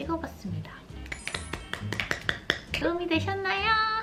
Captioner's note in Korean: 짝짝짝 박수!!